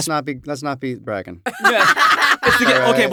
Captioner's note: laughter